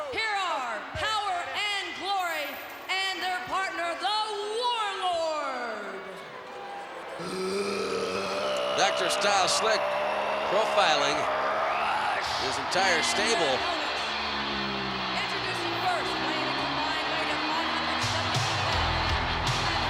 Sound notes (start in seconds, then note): 7.1 guttural grunting; 13.1 exciting music